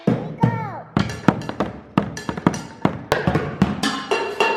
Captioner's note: dishes bang; utensils beat; dishes bang